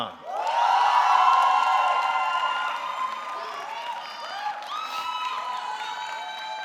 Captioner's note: audience cheering; audience clapping